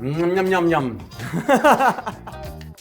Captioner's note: laughing